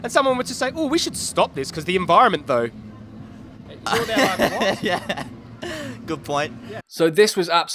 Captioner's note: laughs